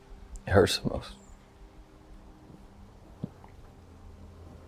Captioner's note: swallows